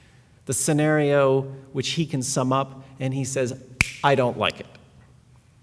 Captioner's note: snap